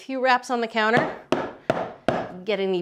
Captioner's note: bundt pan tapping